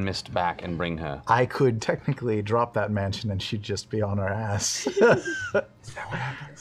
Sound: laughs

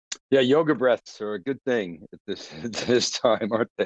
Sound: laughs

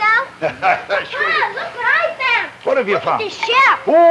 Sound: laughs

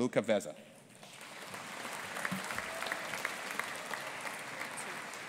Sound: audience applauding

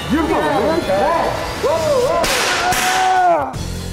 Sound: voiceover; loud snapping; theme music; yells

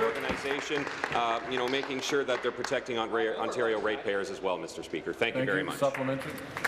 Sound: applause

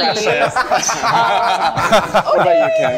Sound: group laughing

